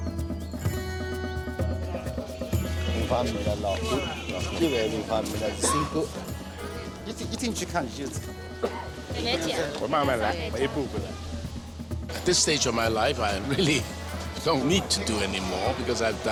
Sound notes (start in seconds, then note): 3.0 man speaking Chinese